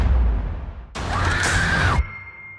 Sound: Maya screams

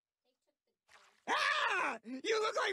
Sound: screaming

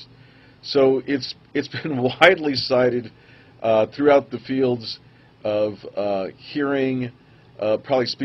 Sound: chuckles

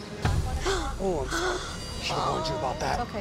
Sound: gasps

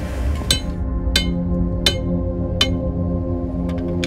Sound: metal clanking

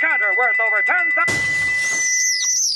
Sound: explosion; squealing

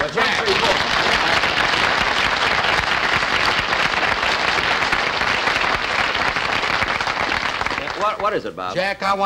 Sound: audience Applauding

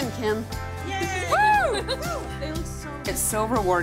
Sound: laughing

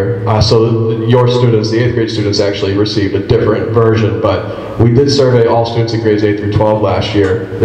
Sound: none

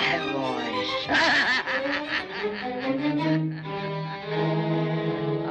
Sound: witch laughs evilly

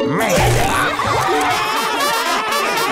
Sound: laughing

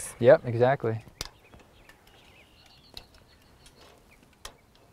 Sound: shuffling of boots on dirt, marring of pencil on wood, no additional audio

